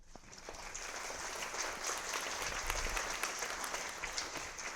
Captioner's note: audience applauding